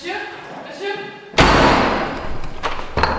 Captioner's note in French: Claquement de porte